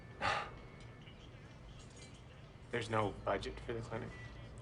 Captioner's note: laughs